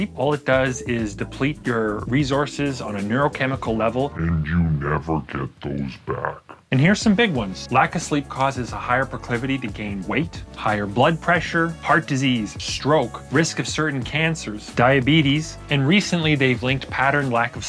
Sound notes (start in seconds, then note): 4.3 demonic voice